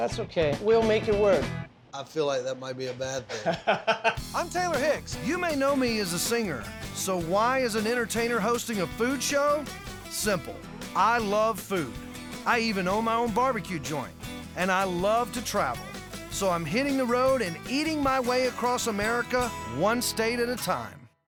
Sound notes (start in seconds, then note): 3.2 laughs